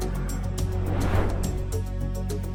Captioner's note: suspenseful music continues; transition whooshing